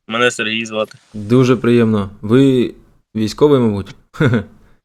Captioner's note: laughter